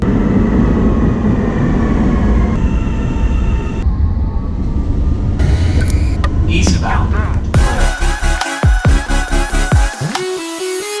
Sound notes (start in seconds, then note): 2.5 traffic sounds; 7.5 upbeat music